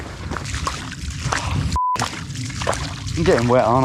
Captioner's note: beep; water sploshing